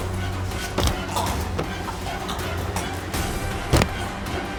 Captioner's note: choking sounds